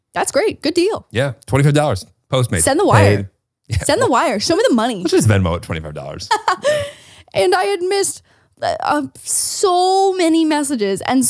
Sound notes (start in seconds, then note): 6.3 laughing